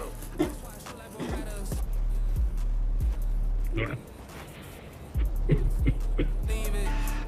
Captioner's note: rap music on radio; JUJU coughs